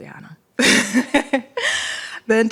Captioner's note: laughter